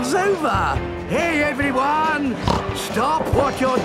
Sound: snorts

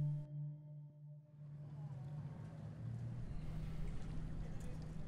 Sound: transition to ambient nautical sounds

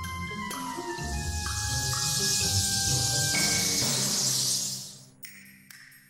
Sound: bat noises

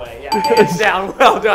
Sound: chime dings

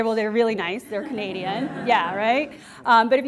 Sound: class laughs

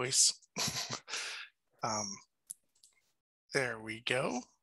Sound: chuckles

